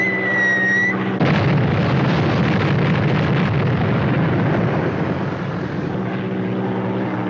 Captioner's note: bombs whistling; explosions; aircraft rumbling